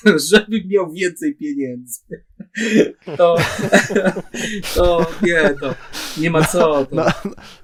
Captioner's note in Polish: śmiech